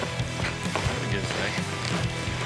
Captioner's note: fast hoof beats